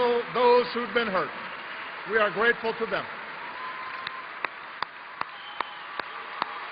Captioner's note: applause